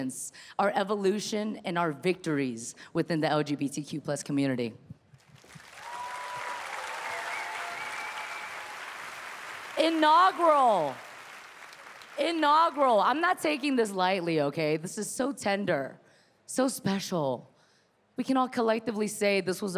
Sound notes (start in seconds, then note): 5.5 audience cheering